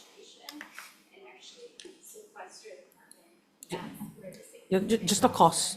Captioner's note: faintly speaking